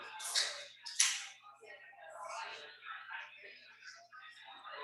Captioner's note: people chattering indistinctly